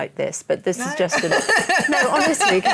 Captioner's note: laughter